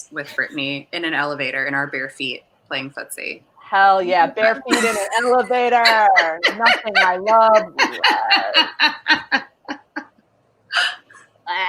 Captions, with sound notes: with Brittani in an elevator in our bare feet, playing footsie. - Hell yeah, bare feet in a elevator. Nothing I love less. (laughing)